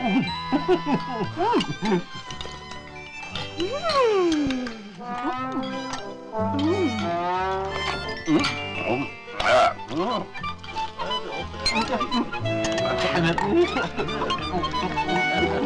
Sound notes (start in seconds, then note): 0.0 guest chuckles; 5.5 playful music; 8.2 guest murmurs; 12.0 playful music